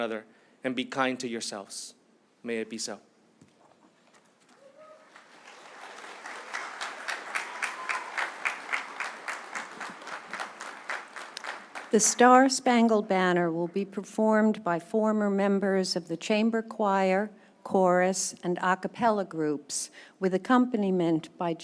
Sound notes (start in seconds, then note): 8.1 applause